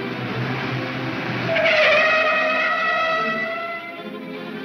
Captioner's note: tires screech